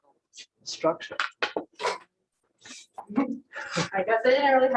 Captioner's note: indistinct conversation